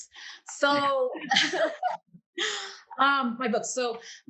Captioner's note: laughs